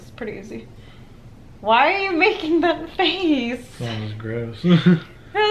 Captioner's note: laughs